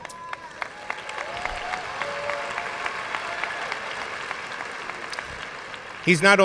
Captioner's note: audience cheering and applauding